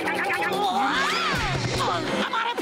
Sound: grunting; screaming

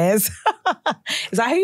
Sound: laughs

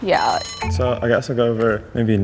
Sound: bell rings

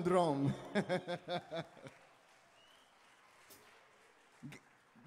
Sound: laughing

